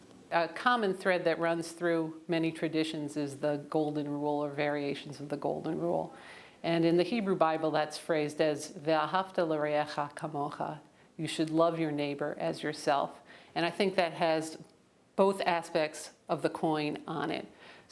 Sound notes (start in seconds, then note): 10.3 in Hebrew